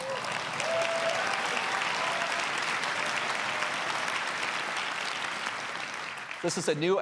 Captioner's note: applause